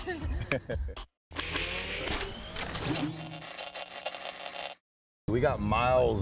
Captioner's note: laughing; mechanical and static noise